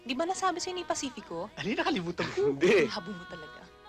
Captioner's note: speaking in native language